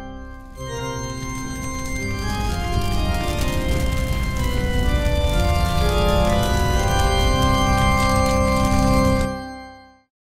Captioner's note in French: Musique démoniaque; bruit de flammes